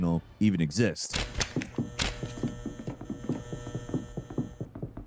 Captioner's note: lights buzzing